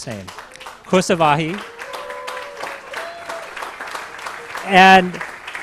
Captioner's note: applause